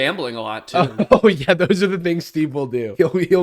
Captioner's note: laughing